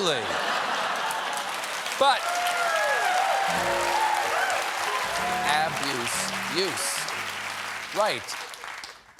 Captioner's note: laughter; cheers and applause